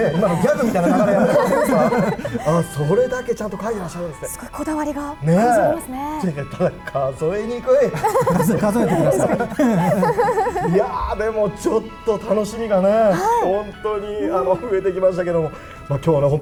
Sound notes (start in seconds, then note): 7.9 laughs